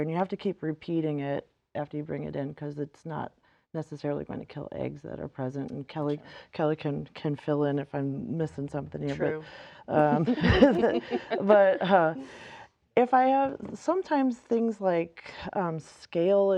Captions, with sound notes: and you have to keep repeating it after you bring it in 'cause it's not necessarily gonna kill eggs that are present. Kelly can fill in if I'm missing something here. - True. (all laughing) - But sometimes things like scale,